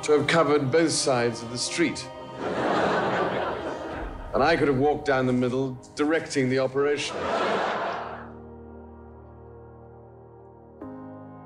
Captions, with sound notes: To cover both sides of the street. (crowd laughing) And I could have walked down the middle, directing the operation. (crowd laughing) (gentle orchestral music)